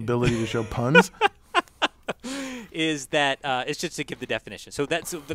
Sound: laugh

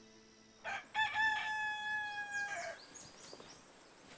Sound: rooster calling

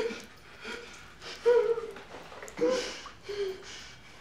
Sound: whimpers

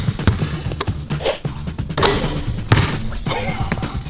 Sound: ball bouncing; whooshing

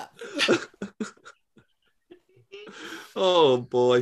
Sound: laughter

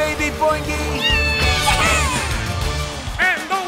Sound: screaming

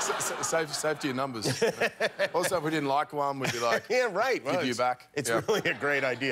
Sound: audience groaning

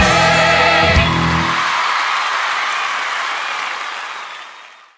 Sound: crowd cheering and applauding

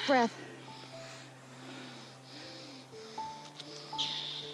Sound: labored breathing

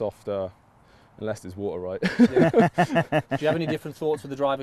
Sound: all laugh

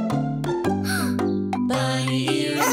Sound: gasping

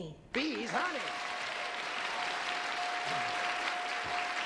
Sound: cheers and applause

